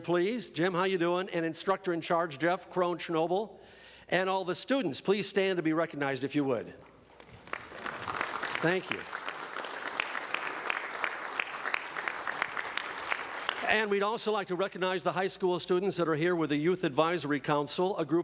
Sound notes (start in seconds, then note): 8.3 applause